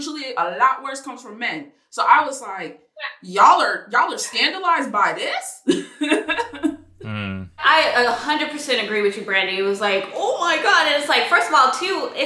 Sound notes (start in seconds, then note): 6.9 laughs